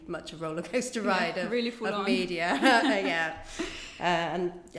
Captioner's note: laughs